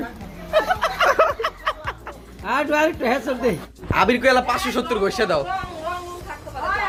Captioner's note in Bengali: সশব্দ হাসি